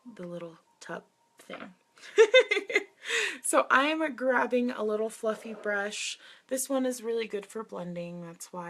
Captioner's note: laughs